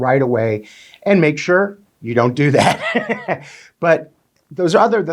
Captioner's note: chuckles